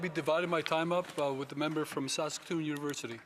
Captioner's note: applause